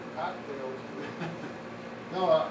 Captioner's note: chuckling